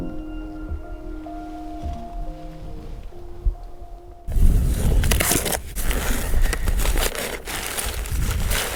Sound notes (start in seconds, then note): 4.4 package rustling